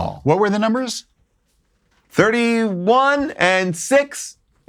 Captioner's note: none